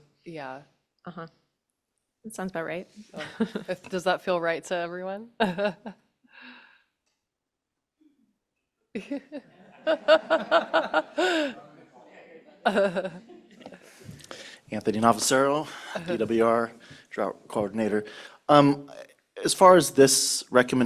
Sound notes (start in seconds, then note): 9.0 laughter